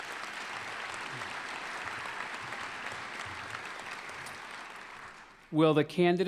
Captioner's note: applause